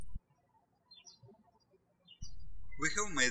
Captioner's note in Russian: птички щебечут